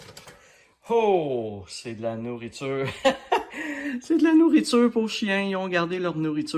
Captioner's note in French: rires